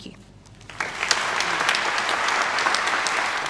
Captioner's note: clapping